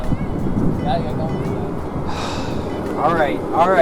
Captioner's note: stoke sighs